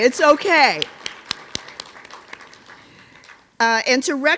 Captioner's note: applause